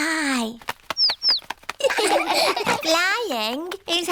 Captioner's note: chirping; laughter